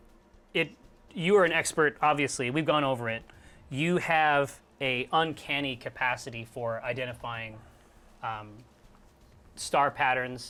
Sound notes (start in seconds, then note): none